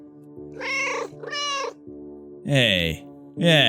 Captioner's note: meow, meow